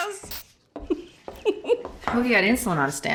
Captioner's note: giggling